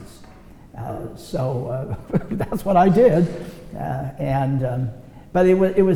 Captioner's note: laughs